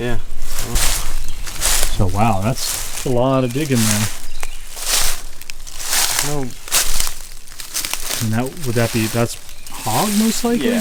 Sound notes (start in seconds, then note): 4.7 leaves crunching